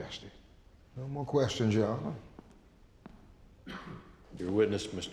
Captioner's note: footsteps